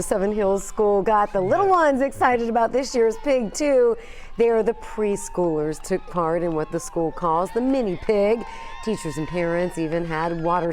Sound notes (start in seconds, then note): 0.6 cheering